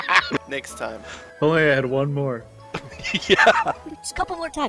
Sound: laughter; laughter

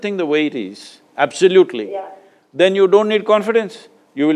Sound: none

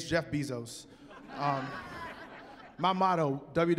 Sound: laughter

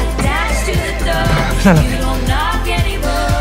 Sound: door opens

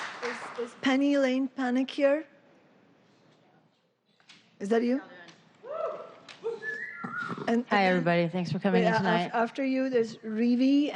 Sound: applause

